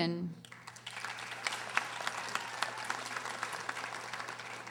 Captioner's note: audience applauding